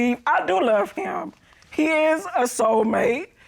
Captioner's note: none